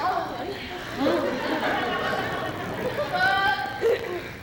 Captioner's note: laughter